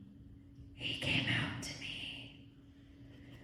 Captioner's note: whispered